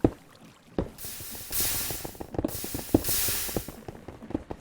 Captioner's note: steam hissing